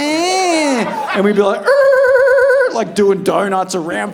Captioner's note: imitating tires squealing